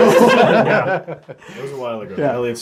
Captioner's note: all laugh